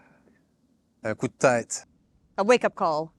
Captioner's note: in french